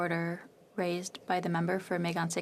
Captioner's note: speaking French